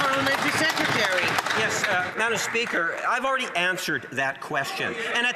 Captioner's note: some Applause